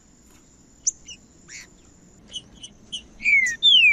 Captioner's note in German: trinca ferro cantando